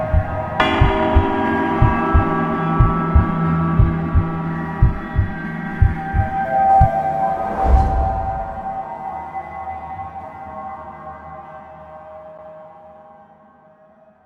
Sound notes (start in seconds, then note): 5.7 eerie music; 5.7 heart beating